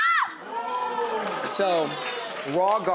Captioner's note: audience exclaims and applauds